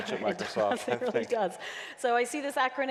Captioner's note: laughing